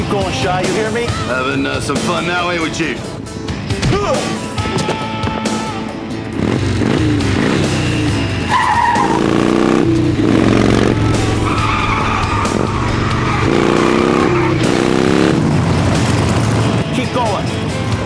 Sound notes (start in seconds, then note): 2.4 thud; 3.3 groan; 6.2 motorcycle revs; 7.6 tires screech; 13.2 motorcycle revs